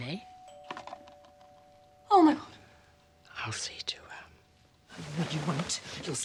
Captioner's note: bell ringing